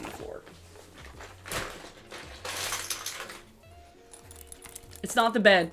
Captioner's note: clutter falls to floor